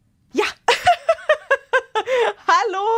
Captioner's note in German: Gelächter